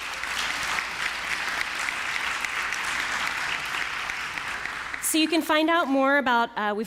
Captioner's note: applause